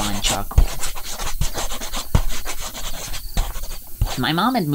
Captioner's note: swift drawing sounds